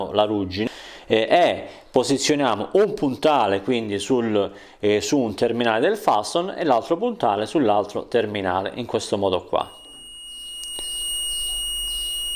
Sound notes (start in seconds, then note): 9.7 buzzer sound